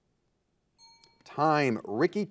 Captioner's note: timer beeping